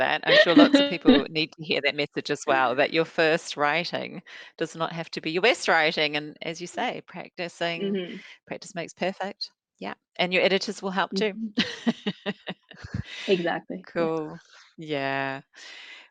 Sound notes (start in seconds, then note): 11.6 laughs